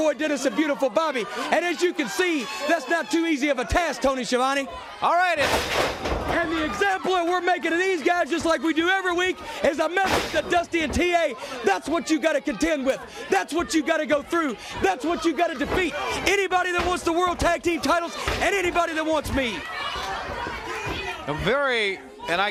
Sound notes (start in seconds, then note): 8.4 crowd cheering